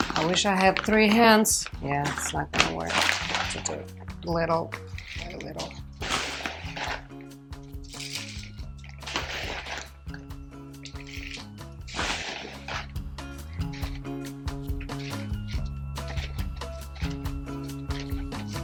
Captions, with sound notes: I wish I had three hands, yeah, it's not gonna work. I have to do it little by little. (upbeat music) (bag rustling)